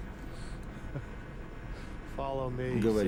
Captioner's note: laughs